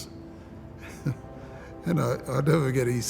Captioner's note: chuckles